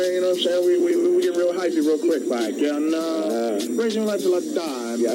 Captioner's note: faintly speaks